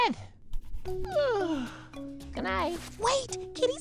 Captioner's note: yawns